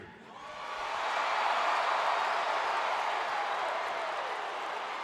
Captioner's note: crowd cheering